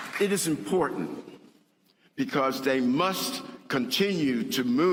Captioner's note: applause